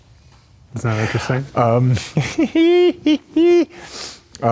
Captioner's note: Keanu laughs